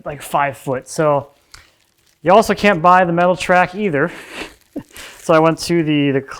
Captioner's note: chuckles